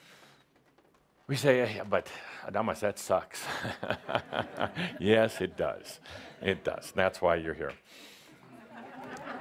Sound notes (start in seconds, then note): 3.4 laughter, Adamus chuckles; 8.4 laughter